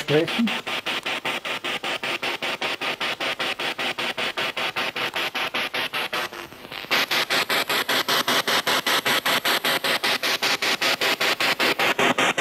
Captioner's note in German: Noise of the spiritbox in the background